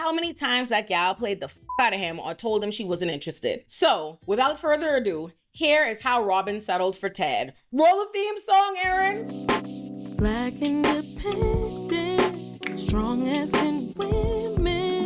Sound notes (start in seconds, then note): 1.6 beep; 8.8 upbeat music